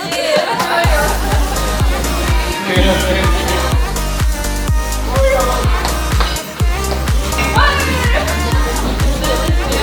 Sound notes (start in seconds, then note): 0.0 girls laughing; 5.3 group chatting